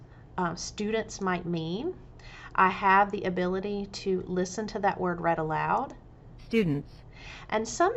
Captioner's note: computer voice reads